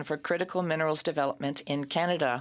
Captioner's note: speaking French